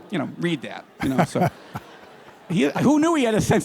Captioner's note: laughter